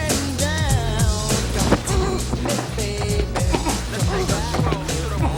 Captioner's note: Suarez groans